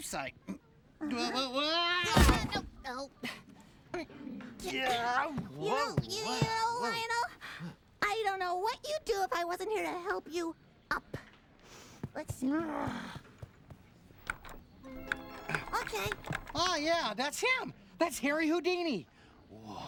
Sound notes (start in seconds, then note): 1.5 yelps; 3.0 grunting; 12.1 groans